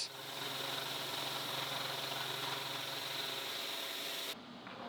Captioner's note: machine whirring